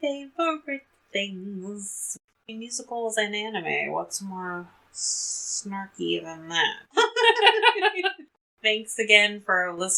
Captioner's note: laughs